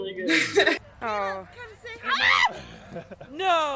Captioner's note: laughs; screams